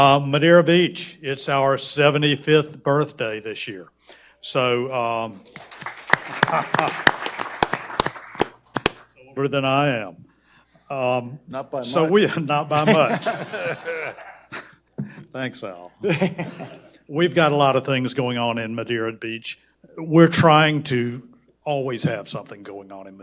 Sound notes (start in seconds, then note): 5.4 audience applauds